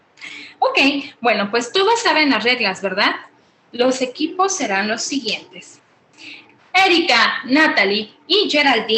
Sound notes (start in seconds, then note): 1.5 woman speaking Spanish